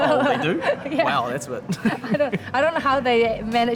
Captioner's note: laughs